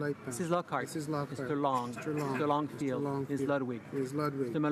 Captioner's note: speaking in grevernl